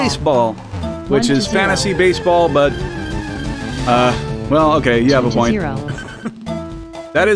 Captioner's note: laughs